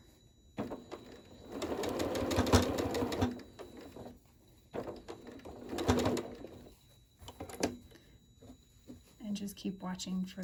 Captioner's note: sewing